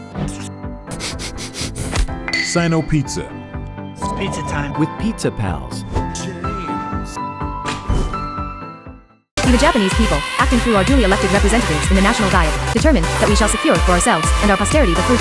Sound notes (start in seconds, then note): 0.9 sniffing